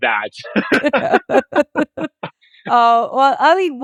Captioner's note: everyone laughing